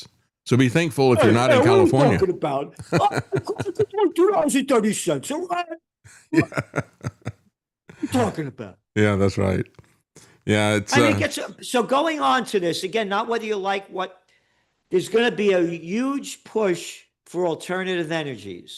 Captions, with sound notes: So be thankful if you're not in California. What are you talking about? (Laughing) $2.30 a gallon? What are you talking about? Yeah, that's right. Yeah, it's-- So going on to this, again, not whether you like what, there's gonna be a huge push for alternative energies.